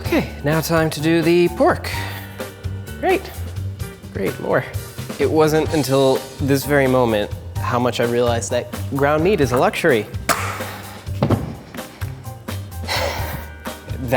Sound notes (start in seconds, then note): 11.1 thud; 12.8 deep sigh